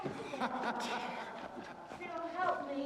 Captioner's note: hugh laughs